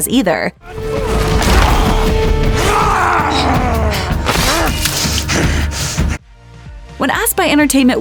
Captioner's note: snarls and grunts